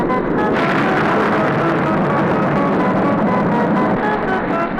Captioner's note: thunder crashing